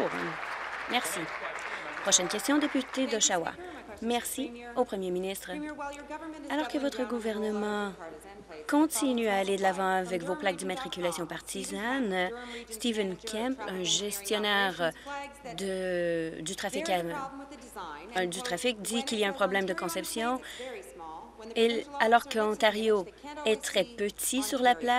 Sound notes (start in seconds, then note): 4.5 applause